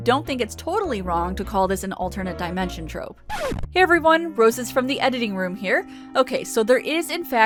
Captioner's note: record scratch